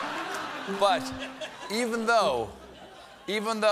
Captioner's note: laughter; piano riff